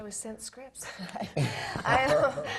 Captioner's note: laugh